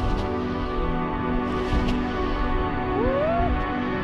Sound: whoosh of wind on wings

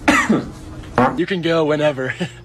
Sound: coughs; farts

